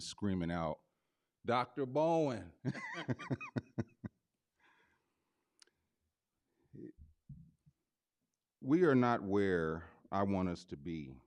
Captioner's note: laughs